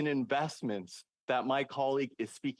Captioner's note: speaking French